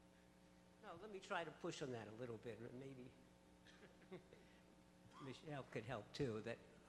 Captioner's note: voiceover